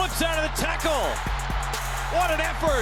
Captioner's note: cheering